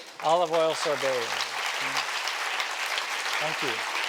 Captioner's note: applause